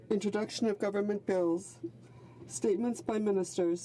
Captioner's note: speaking French